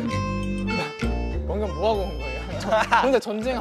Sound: kekeke

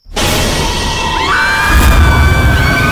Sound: screams

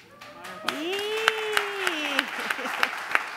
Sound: applauding

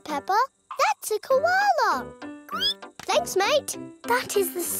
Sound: squeals

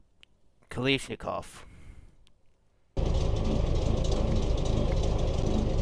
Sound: loud Engine Noises

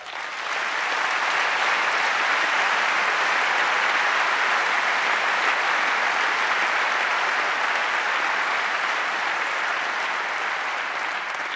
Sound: applause

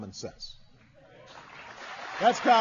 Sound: applause

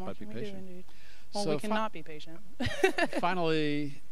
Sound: chuckling

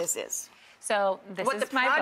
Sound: laughs

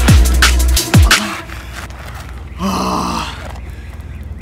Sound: he gasps

